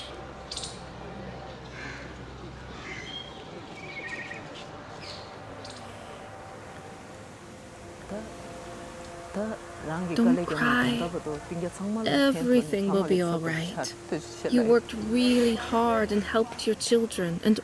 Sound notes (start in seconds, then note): 0.0 speaks foreign language; 1.6 birds cawing; 8.5 speaks foreign language